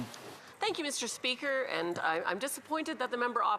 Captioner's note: speaking French